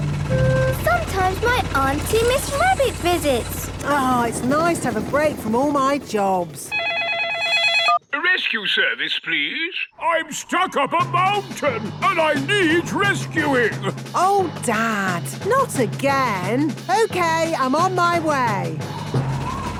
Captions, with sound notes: Sometimes, my aunty, Miss Rabbit, visits. - Ah. It's nice to have a break from all my jobs! (phone ringing) - Rescue Service, please. I'm stuck up a mountain and I need rescuing! - Oh, Dad! Not again! Okay, I'm on my way.